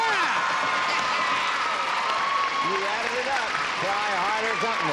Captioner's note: applause